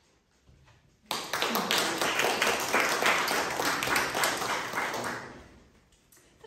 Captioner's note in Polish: oklaski